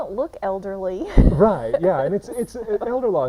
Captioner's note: chuckling